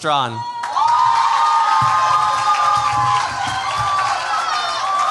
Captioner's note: cheers, applause